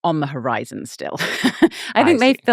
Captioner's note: laughing